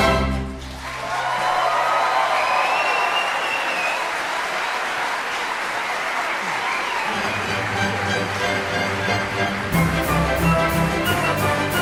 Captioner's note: applause